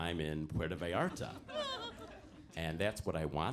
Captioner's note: audience laughs